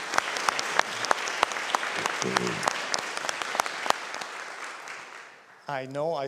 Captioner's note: applause